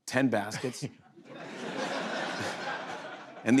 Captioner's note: laughter